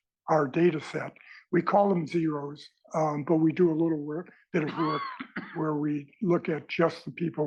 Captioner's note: cough